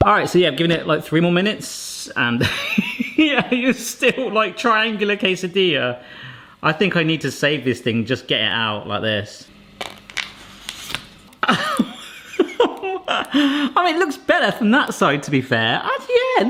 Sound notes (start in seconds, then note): 2.2 fake cries; 9.8 samosas crackle; 11.4 laughs